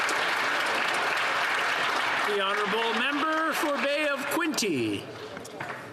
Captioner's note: applause